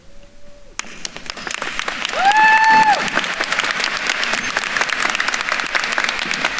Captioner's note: attendees cheering and applauding